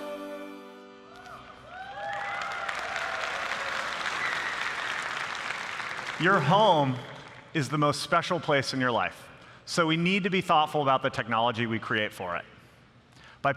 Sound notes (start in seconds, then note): 1.7 applause